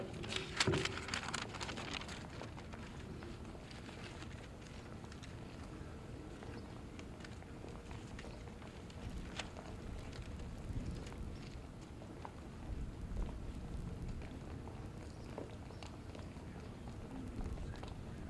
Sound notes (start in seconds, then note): 0.0 paper rustling; 3.1 footsteps and the sound of the choir setting up